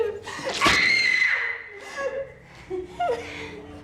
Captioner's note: screaming; crying